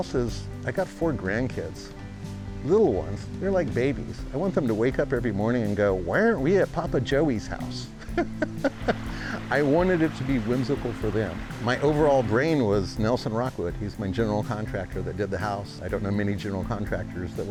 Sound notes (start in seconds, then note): 8.0 laughing